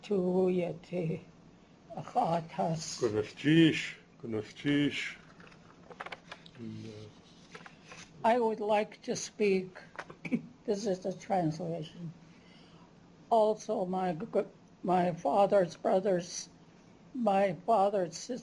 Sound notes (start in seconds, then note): 2.9 non-english speech